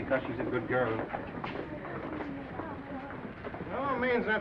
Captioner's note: viewers chattering